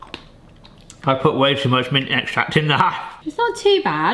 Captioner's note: laughs